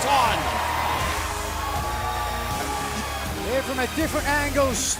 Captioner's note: crowd cheering